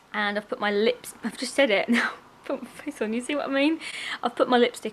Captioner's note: laughs